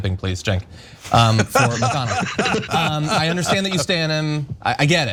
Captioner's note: laugh